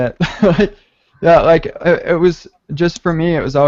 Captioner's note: laughing